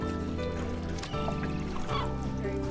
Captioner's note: seagulls calling